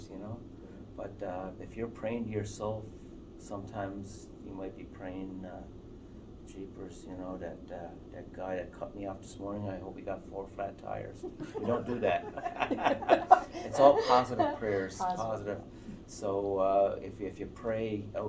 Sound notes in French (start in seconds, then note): 11.1 Rires